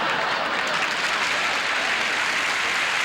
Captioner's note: audience laughing; audience applauding